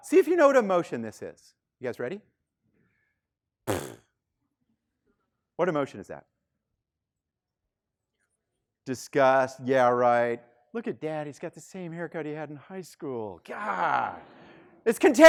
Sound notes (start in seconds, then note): 3.6 lips vibrating